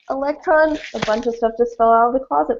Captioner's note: crashing